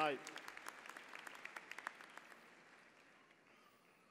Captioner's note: applause